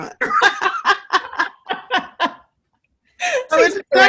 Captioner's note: both laughing